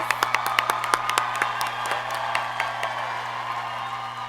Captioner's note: graduates cheer